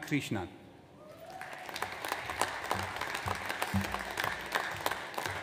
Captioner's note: audience applauds